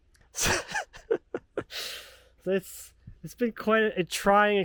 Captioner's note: laughing